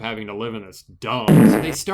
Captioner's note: farting